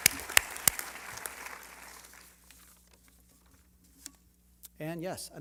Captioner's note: applause